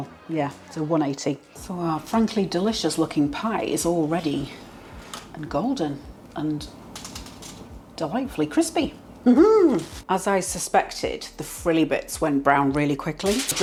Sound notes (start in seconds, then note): 6.9 tap tap tap